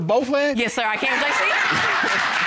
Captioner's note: laughs